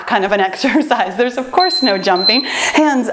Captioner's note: timer beeps